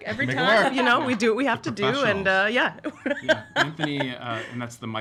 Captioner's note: laughs